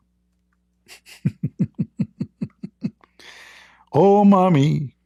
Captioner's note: Ketawa